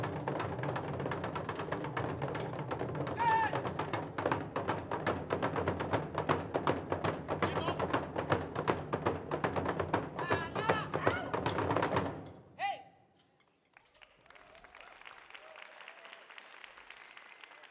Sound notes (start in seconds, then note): 1.8 drums beating; 6.8 drums beating; 10.3 shouting and drums beating; 13.7 audience applauding